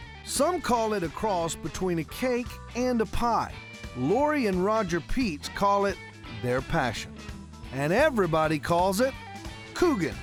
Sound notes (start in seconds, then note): none